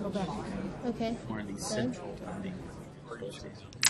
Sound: voiceover

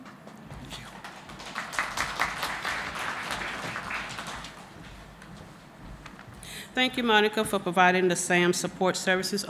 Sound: applause

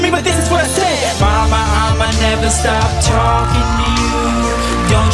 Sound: audience cheering

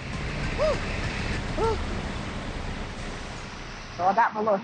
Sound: panting

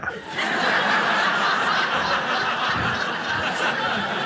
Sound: audience laughs

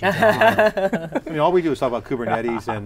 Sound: laughing

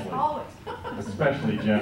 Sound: laughs

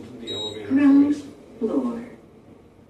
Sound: electronic elevator female voice

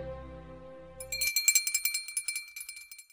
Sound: bell ringing

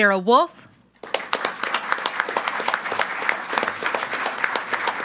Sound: group applauding

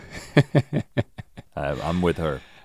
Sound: Link chuckles

